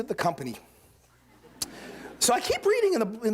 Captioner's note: laughter